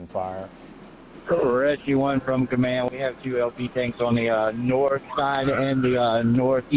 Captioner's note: radio traffic - Rescue 1